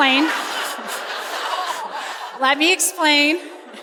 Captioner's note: laughter